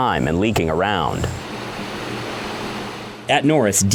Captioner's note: whirring